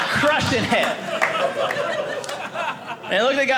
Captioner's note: audience laughing